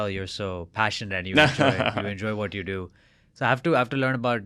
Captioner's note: laughs